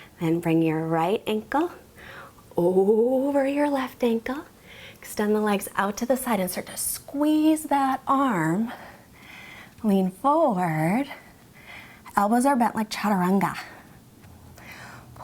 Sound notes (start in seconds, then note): 12.8 speaks in foreign language